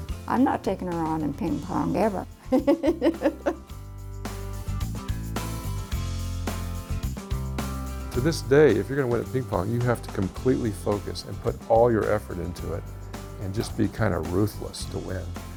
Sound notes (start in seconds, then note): 2.5 laughs; 4.3 upbeat music